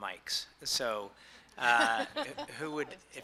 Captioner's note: laughing